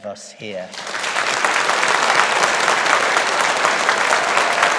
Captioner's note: audience applauding